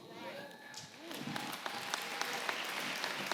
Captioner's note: applause